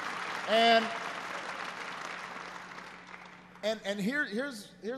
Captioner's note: applause